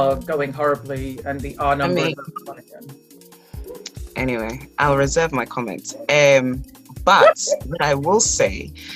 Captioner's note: laughs